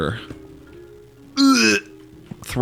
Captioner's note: gagging